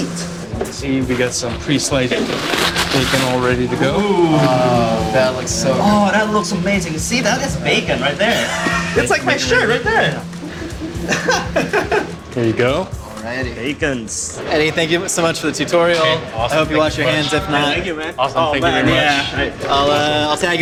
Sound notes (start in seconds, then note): 11.6 laughing